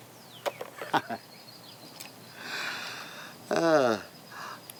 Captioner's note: Lucky chuckles